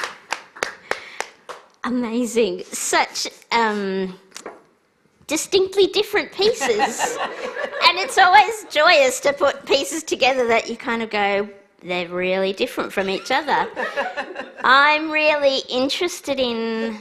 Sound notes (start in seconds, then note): 0.0 applause